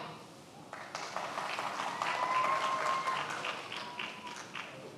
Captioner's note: many applauding